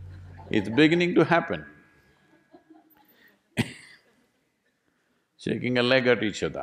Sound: laughs

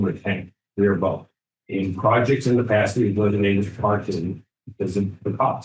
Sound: speaking faintly

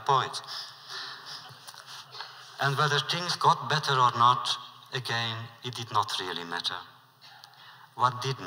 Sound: laughter

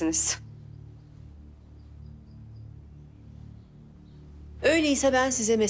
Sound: silence

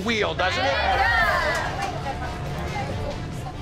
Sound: cheers

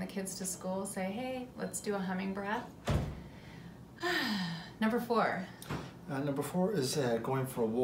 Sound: ahhhhh

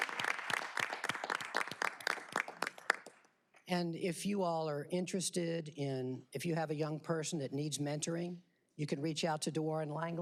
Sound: applause

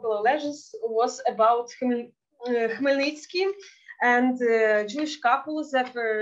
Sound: speaking Yiddish

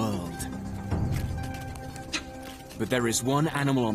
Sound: cheetah growls

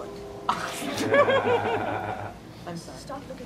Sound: laughter

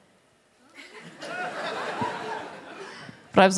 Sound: laughter

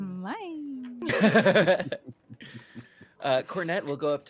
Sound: chuckling

